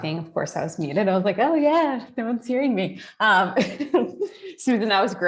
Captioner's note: laughs